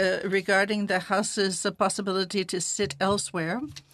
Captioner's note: speaking French